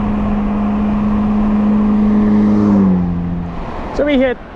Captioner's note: car engine revs